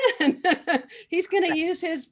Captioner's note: laughing